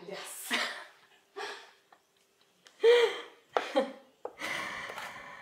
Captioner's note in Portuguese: risos